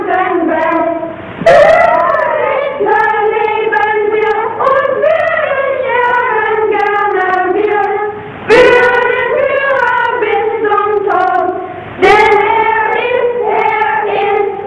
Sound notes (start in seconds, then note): none